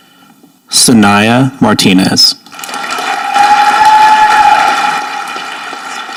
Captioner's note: audience applauding